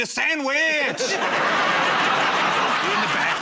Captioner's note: laughter